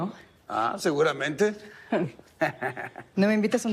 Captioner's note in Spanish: Risas